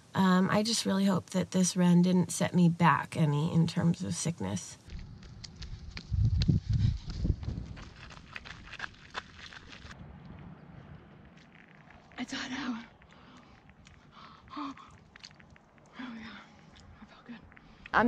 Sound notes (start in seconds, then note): 4.9 footsteps crunching on gravel; 14.2 exhales in refreshment